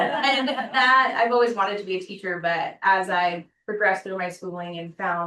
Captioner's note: laughter